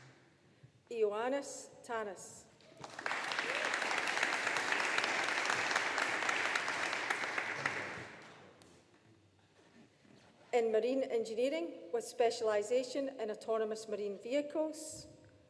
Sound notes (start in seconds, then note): 2.7 people cheering; 2.7 audience applauding